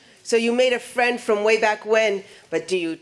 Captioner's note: none